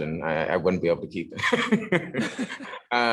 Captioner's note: laughter